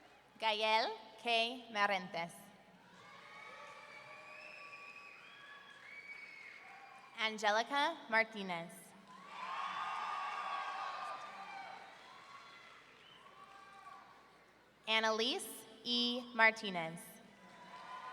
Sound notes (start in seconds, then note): 2.9 audience cheering; 9.0 audience cheering